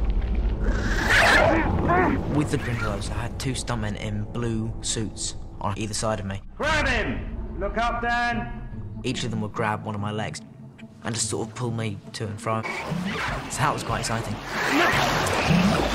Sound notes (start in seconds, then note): 0.6 grindylow growling